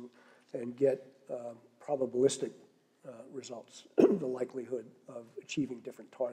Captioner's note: cough